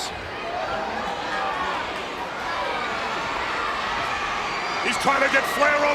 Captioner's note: crowd cheering